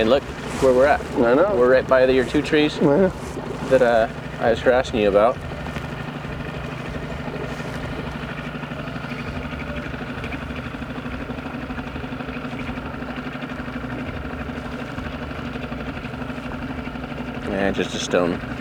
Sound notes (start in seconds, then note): 2.3 chuckling; 5.6 engine rumbling